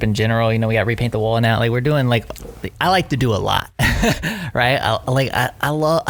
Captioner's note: laughs